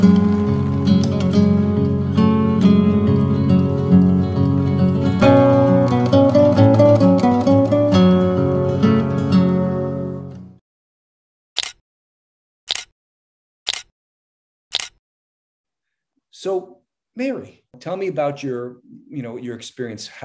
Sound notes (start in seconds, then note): 14.7 camera shutter clicking